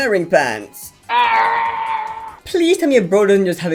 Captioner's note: immensely painful screaming